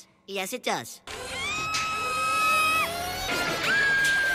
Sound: screams where no one can hear you scream

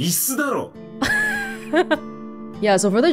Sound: chuckles

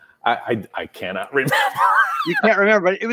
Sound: laughs

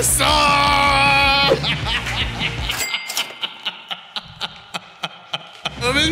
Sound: laughter

